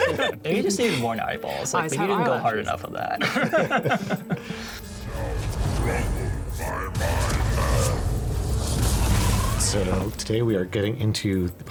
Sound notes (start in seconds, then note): 3.1 laughter; 3.9 suspenseful orchestral music